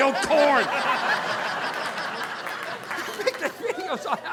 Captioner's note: audience laughing